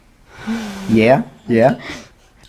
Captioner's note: laughs